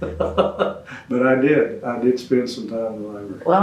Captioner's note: laughter